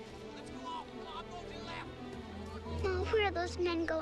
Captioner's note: men yelling